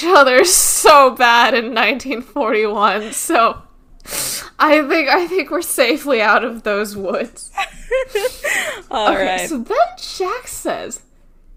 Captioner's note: laughs